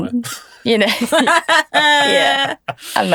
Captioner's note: group laughs